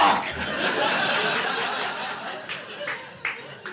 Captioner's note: audience laughing